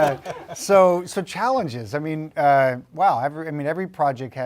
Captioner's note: laugh